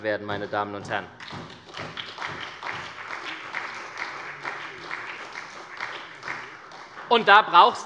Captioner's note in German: Beifall bei der SPD